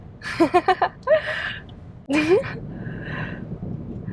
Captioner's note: chuckling